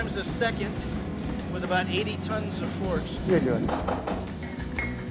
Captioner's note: hammer banging; murmurs